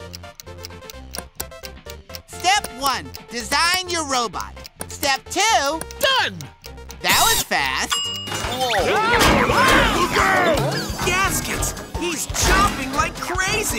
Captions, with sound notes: Step one, design your robot, step two-- Done! That was fast. [yelling] Gaskets, he's chomping like crazy.